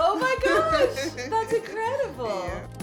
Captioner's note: laughs